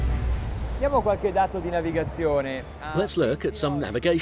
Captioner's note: speaking in foreign language